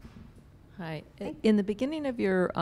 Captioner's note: voiceover